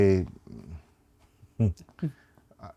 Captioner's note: chuckles